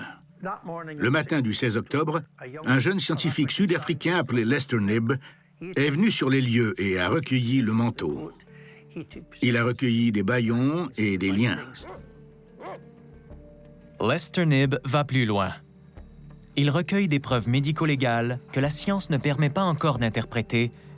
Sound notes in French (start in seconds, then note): 12.5 aboiements